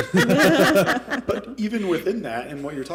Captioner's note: laughter